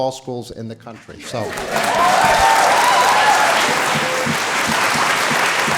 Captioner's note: audience applauding